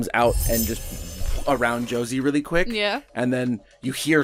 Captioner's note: shining, ringing poof